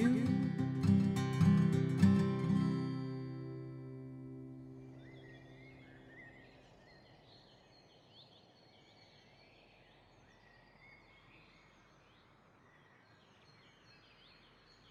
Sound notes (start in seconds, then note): 0.0 gentle acoustic music; 5.6 birds chirping